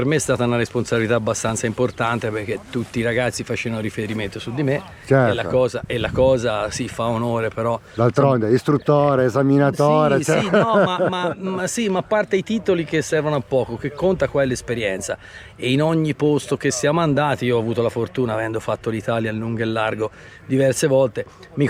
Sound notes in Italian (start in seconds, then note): 10.1 risate